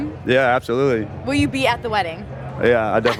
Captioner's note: laughs